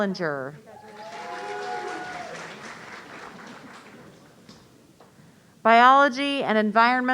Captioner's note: audience applauding